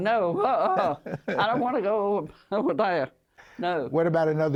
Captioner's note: laughter